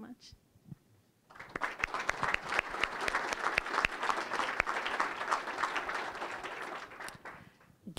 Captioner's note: applause